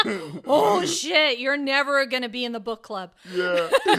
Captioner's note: laugh; laughs